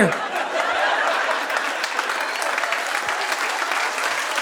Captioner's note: audience applauding